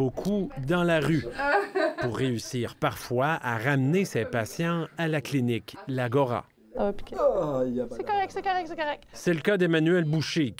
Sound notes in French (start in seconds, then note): 1.3 rires